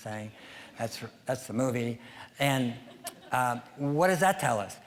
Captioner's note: audience laughing